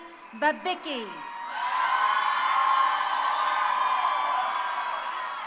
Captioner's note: crowd cheering